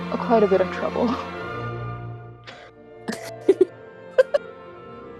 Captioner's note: cracking up